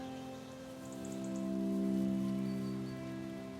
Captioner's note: birds chirp